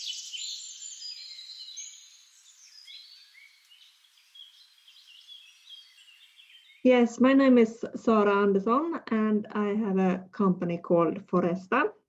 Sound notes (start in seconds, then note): 4.1 sounds of birds chirping ending